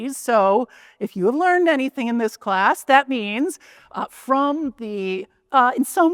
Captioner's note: none